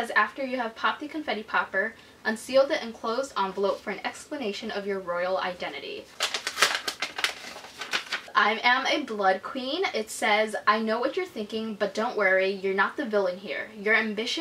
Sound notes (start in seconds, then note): 6.0 ripping open envelope noise